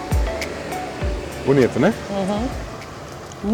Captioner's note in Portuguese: Hum-hum!